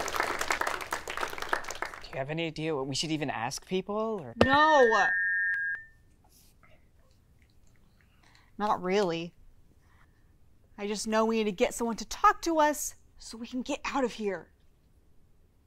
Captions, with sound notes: - Do you have any idea what we should even ask people? - No! (mic screeches) Not really. I just know we need to get someone to talk to us so we can get out of here.